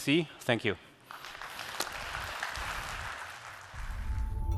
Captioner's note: applause